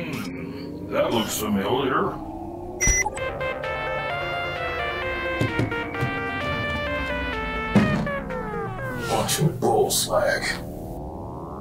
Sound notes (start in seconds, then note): 2.8 device bleeps; 2.8 upbeat music begins; 7.8 music warbles and fades; 11.4 eerie synth music